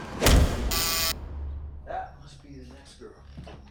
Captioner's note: buzz buzz buzz